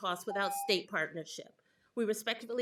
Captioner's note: timer tone